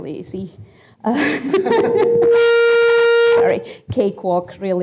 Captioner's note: laughing